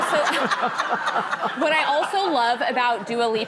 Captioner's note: audience laughing